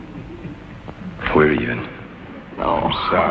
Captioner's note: chuckles